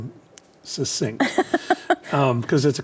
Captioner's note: laughing